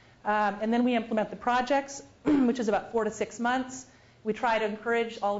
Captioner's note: cough